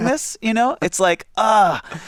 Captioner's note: laughs